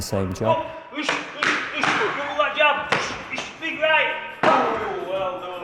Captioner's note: boxing sparring and coach giving instructions